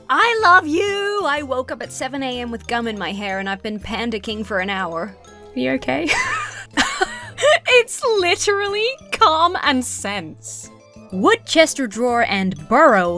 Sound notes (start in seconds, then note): 6.0 laughs